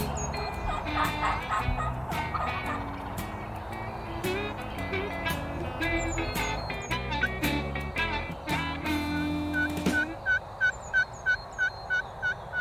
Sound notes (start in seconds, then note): 0.0 blues music; 0.3 turkey calls; 8.8 turkey calls